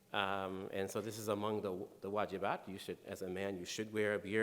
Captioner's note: speaking in foreign language